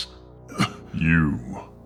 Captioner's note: pant